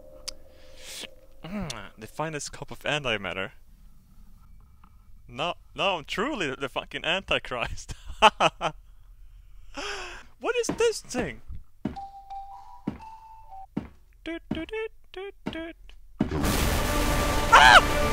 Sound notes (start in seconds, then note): 14.2 mimic's flute sound